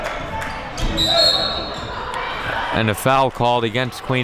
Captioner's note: whistle blows